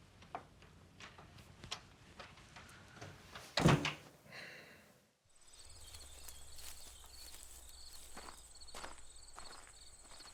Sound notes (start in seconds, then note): 3.6 door slams; 5.3 crickets chirping